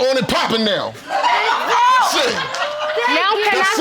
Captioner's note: audience laughing